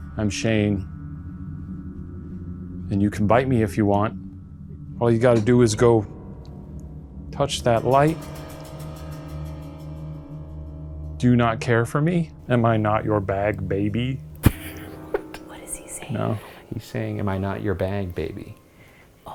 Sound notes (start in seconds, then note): 14.4 chuckles